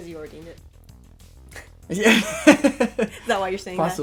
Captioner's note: laughter